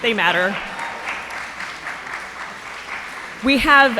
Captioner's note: audience applauding